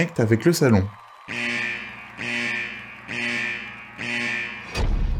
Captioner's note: The dilemma alarm sounds